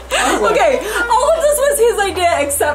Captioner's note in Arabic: يضحك